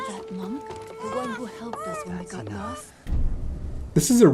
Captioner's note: baby wailing